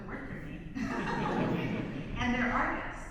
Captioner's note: and audience laughs